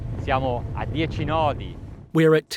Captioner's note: speaking foreign language